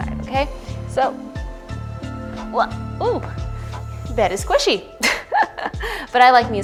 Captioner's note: laughs